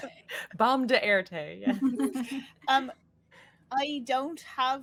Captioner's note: laughing